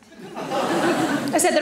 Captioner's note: audience laughing